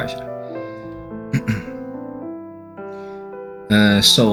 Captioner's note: coughs